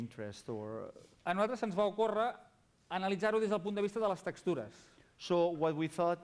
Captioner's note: non-english speech